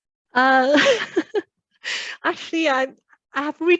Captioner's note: laughs